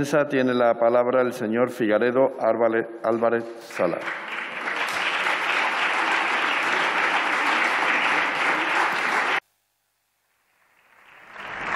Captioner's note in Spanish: Aplausos